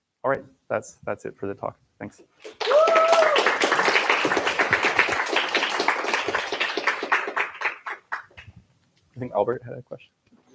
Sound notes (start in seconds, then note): 2.4 applause